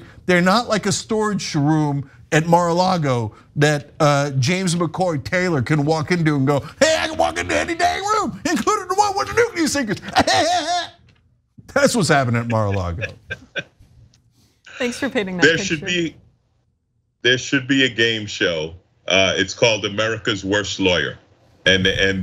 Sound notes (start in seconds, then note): 12.0 laugh